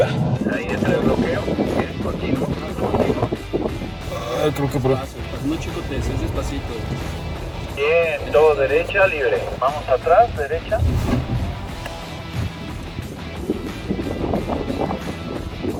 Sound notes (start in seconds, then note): 0.2 voice on radio; 6.7 voice on radio; 11.3 wind blowing